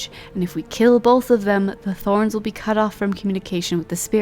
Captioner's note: none